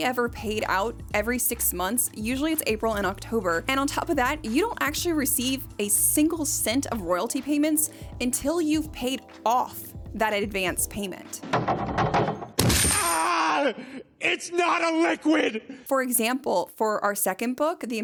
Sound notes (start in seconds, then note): 11.4 knocking; 11.4 crashing